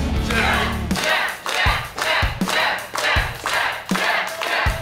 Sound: crowd chants " "

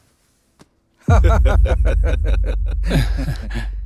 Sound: laughs

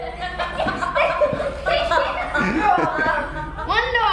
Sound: laughing

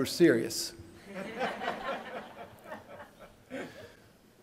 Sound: laughter

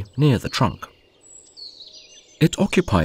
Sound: sounds of nature

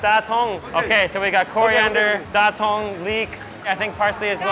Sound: speaks in Mandarin; speaks in Mandarin

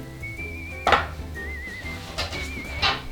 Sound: SFX: Clack

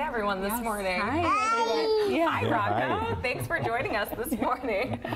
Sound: babbling

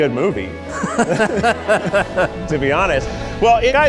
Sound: all laughing

